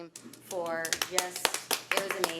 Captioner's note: audience applauds